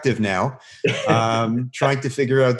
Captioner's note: laughing